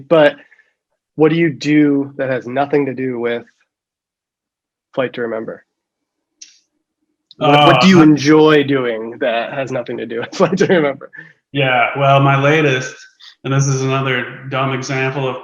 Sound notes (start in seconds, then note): 10.2 chuckles